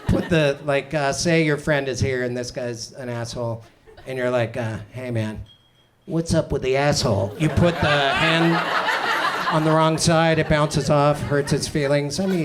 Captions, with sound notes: Like say your friend is here and this guy is an asshole and you're like, hey man, what's up with the asshole? You put the hand, (audience laughs) on the wrong side, it bounces off, hurts his feelings.